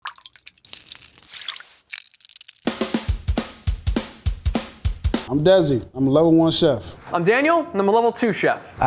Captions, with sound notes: [coffee splashing] [sieve taps] [upbeat music] - I am Desi, I'm a level-one chef. - I'm Daniel, and I'm a level-two chef.